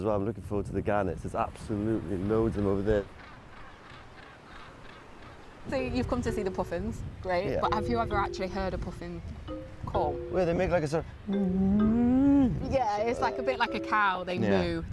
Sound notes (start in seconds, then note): 11.2 impersonates puffin call